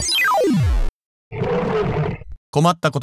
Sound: Godzilla roars

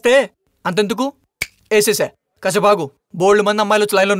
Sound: snaps finger

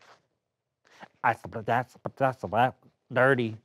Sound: beatboxes

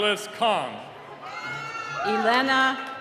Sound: cheering

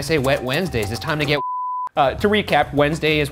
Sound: beep

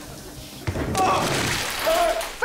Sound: grunting, groaning

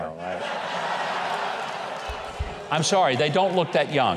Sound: audience laughing

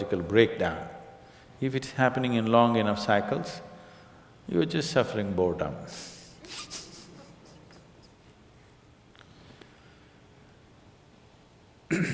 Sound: laughs

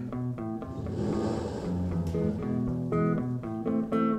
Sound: a gust of wind

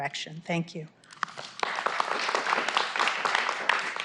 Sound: applause

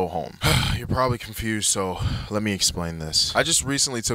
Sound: sighs

